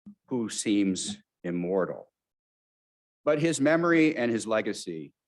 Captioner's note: none